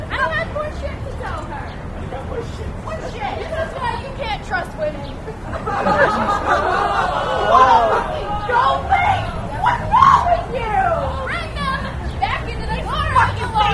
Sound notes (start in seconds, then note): 5.2 audience laughs and groans